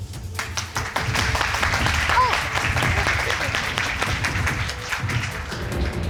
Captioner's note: crowd clapping